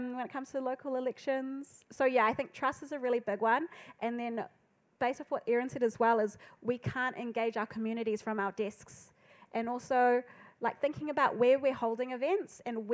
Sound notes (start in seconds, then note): none